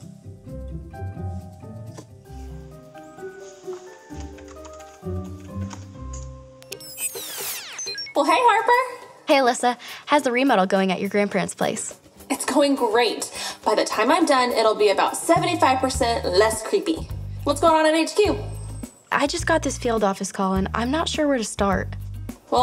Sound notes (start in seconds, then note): 0.0 gentle playful music; 6.6 computer beeps